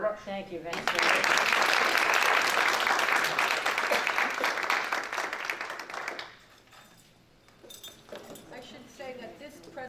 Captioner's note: clapping